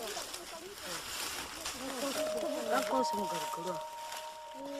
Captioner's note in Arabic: الثرثارة الخلفية